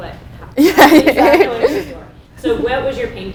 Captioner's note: both laugh